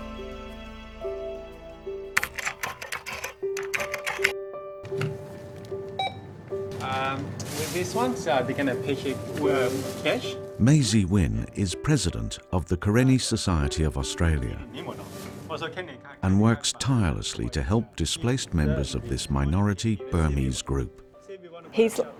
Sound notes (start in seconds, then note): 2.2 computer keys clicking; 4.8 beeps; 10.6 voiceover; 14.5 speaking in foreign language